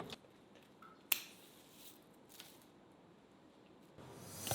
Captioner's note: snips